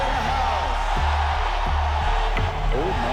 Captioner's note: chanting